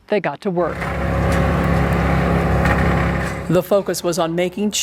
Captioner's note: machinery whirring